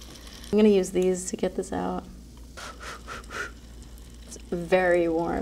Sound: exhaling sharply

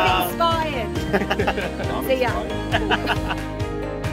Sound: laughter

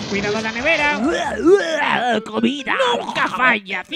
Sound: Taz noises

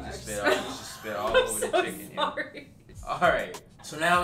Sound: laughing

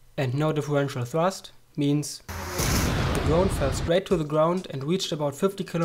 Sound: explosion

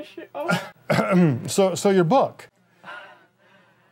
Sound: coughs

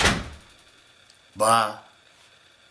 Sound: door slams

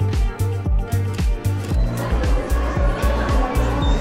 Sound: light music continues; camera clicking; crowd buzzing

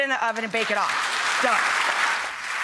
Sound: clapping

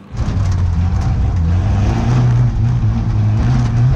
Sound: engine revving

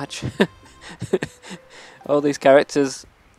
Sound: laughs

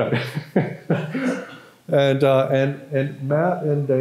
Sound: laughter

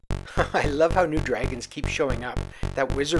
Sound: laughs

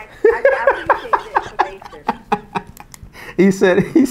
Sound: laughing

